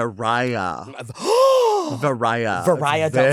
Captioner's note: gasps